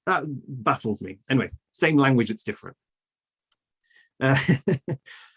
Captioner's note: laughs